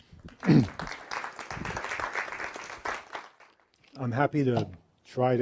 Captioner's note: applause